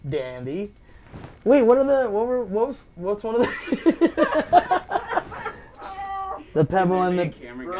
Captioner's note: laughing